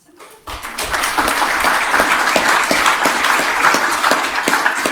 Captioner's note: audience clapping